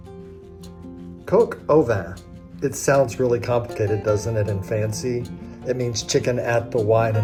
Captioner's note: french